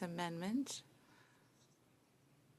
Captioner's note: speaking French